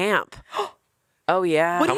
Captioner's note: Anna gasps